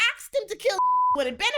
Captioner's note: beep